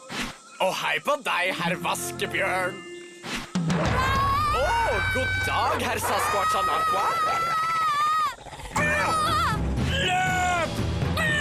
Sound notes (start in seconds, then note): 3.9 screams; 7.1 gasps